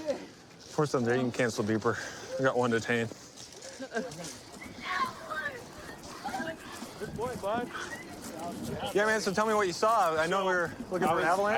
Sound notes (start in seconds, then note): 4.8 yelling